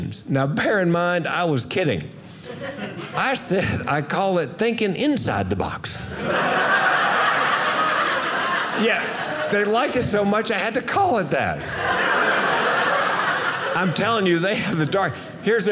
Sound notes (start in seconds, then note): 6.1 audience laughing; 11.4 audience laughing